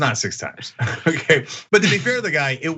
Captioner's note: laugh